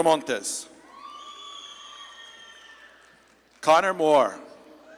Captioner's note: audience claps and cheers